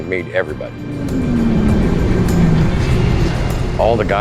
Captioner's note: engine rumbling